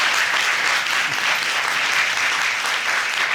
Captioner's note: audience applauding